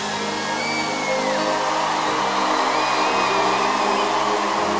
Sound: audience applauding

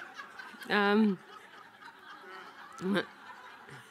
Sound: audience laughing

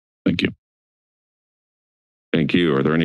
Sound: silence

